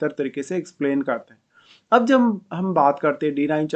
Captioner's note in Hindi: नाक से की जाने वाली आवाज़